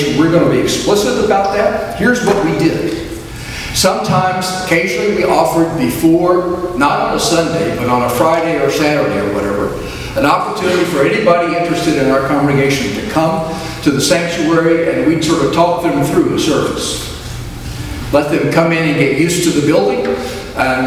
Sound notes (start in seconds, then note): none